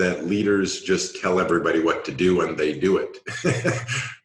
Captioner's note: laughs